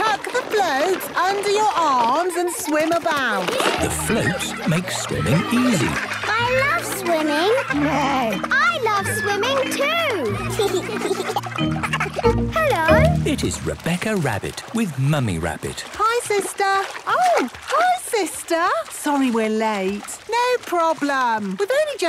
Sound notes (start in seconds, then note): 8.0 neighs; 10.8 giggles